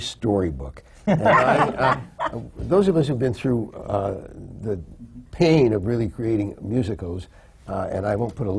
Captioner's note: laughter